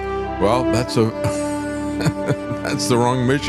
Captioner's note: laughing